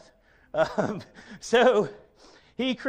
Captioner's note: chuckles